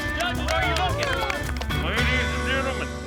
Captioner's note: everyone claps